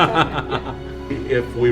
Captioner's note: laughing